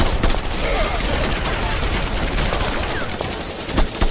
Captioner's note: trooper groans